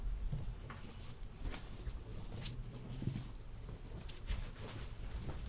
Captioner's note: clothes rustling continues